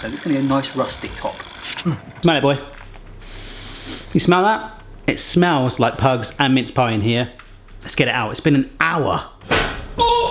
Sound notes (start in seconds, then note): 3.2 inhaling deeply; 9.9 groaning